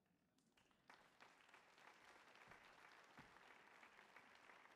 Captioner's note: audience applauding